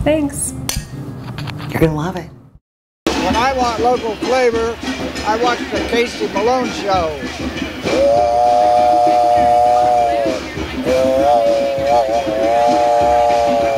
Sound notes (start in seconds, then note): 7.8 train horn blows